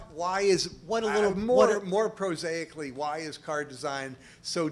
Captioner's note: voiceover